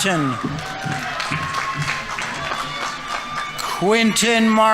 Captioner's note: audience members cheering; audience applauding